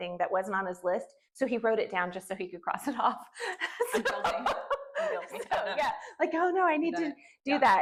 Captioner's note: laughter